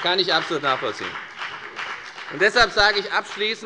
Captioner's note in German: Beifall bei der FDP